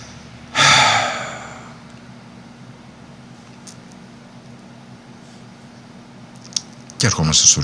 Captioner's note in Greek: αναστεναγμός